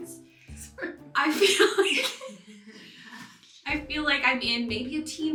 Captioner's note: laughs